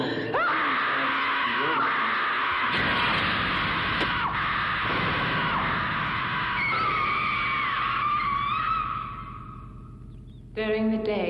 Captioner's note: scream